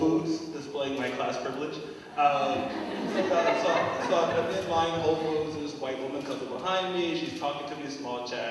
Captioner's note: laugh